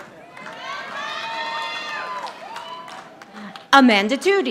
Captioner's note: audience applauding